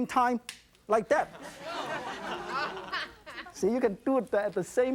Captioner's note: audience woahs and laughs